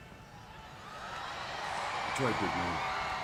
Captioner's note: crowd cheering